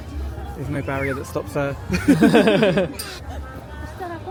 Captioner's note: laughing